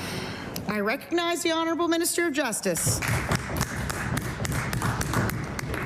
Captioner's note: some Applause